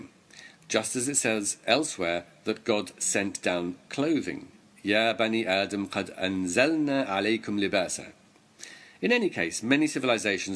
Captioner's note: arabic words